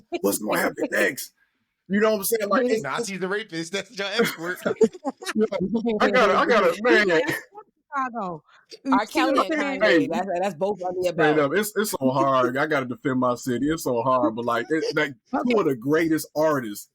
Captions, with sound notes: What's gonna happen next? You know what I'm saying? I see the rapist, that's just everywhere. (laughing) I got it, I got it. I love Chicago. That's both of the above. It's so hard, I gotta defend my city. It's so hard, but like, what a greatest artist.